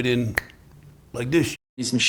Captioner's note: clicks fingers